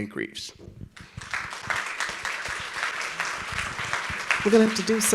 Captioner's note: audience applauds